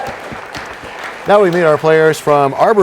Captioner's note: applause